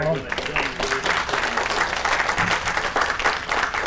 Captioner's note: applause